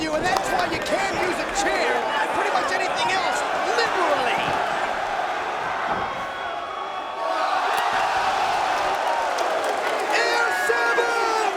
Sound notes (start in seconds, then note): 5.3 spectators cheering